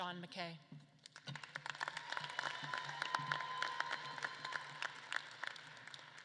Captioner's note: audience claps and cheers